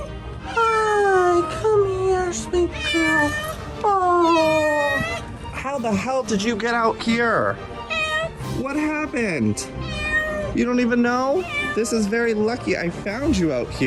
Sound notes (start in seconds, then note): 2.6 cat Caterwauling; 7.8 cat Meows; 9.7 cat Meows